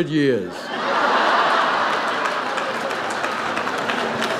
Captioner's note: audience laughs